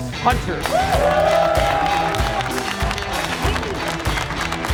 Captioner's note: cheering